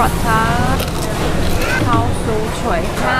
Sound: crunchy

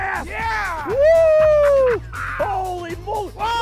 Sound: howling

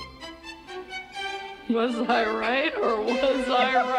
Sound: Sheila laughing

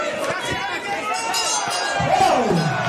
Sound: bell ringing

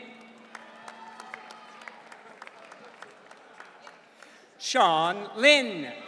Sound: audience cheering

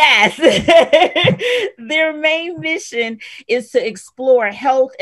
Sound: laughs

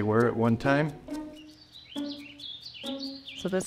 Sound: birds singing

